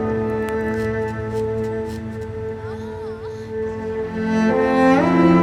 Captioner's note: moaning and movement in background